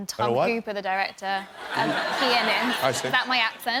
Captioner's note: laughter